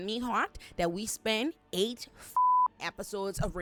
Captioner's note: beep